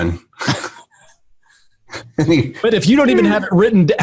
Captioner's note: giggles